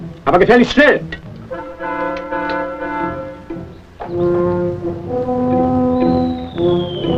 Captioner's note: soldier speaks in foreign language